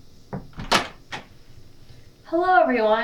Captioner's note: door shuts